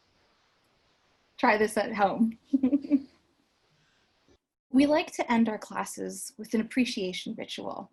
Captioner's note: laughs